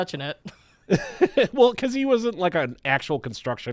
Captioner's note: chuckles